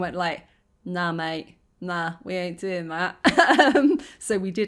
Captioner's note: laughing